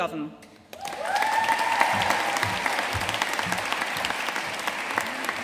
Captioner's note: audience cheering and applauding